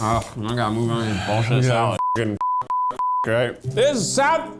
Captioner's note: beep